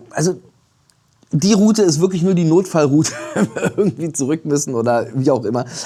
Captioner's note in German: gelächter